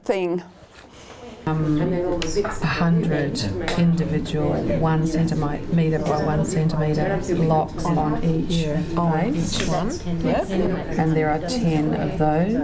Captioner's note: audience chatter